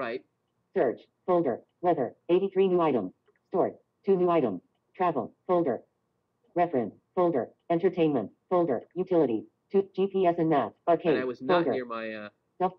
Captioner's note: Siri talking